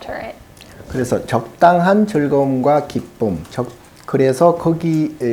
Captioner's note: speaking Korean